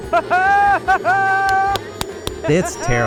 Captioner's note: laughing and clapping